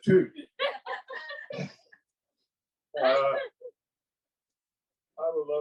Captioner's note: crowd laughs